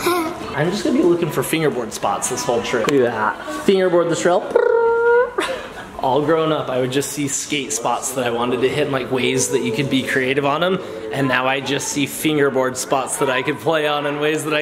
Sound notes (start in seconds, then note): 0.0 chuckles; 4.4 dad trilling